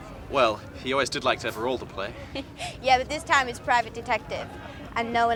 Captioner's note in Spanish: risas; risita